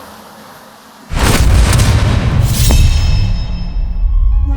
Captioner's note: resonant bang